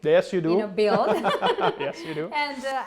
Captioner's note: laughter